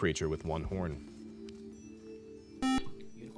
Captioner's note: beep